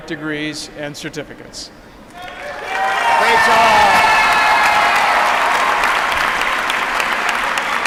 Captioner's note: applause